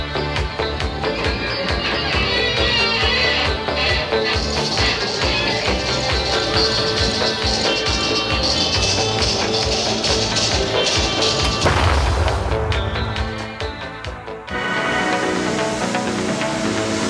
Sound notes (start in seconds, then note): 11.4 explode